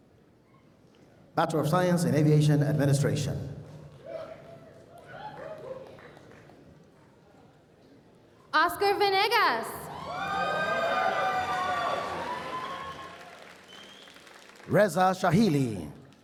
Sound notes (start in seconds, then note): 9.8 cheers and applause